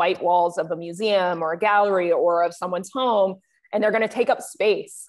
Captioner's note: none